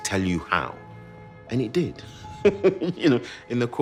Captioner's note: laughs